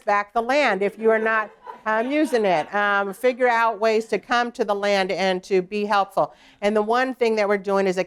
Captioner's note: laughter